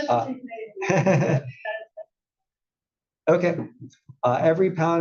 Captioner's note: laugh